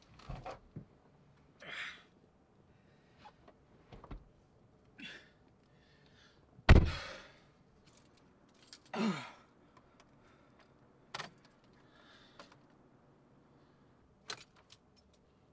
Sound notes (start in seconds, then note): 8.5 keys jangling